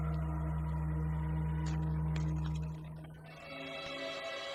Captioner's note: creaking